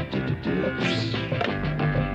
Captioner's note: swishing